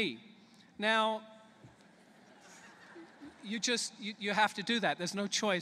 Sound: laughter

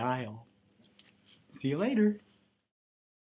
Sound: smooch

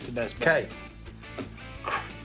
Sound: scoffs

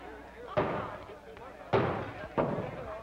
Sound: banging

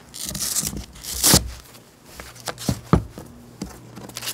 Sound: sandpaper ripping

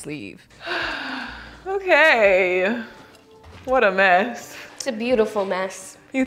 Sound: sighs

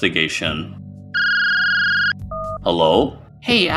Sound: phone Ring

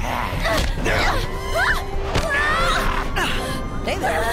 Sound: screaming

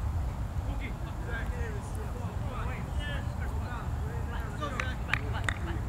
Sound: players talking and yelling

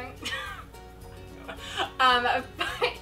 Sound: laughs

